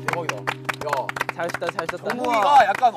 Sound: clapping and cheering

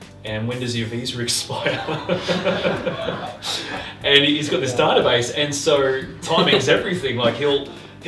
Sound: laughter

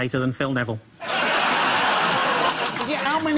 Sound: audience laughs

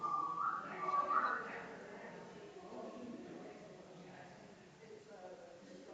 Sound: people chattering distantly continues

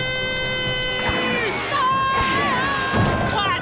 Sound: yelling

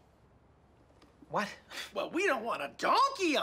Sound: scoffs

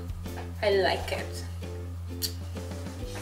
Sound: kiss

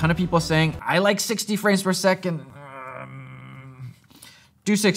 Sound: grunts

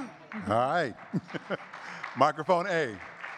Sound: audience clapping; chuckles

